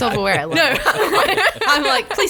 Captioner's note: laughs